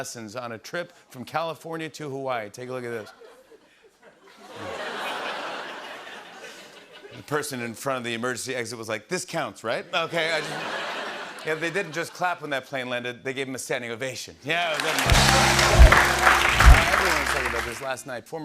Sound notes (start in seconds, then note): 2.8 laughter; 10.0 laughter; 14.6 cheers and applause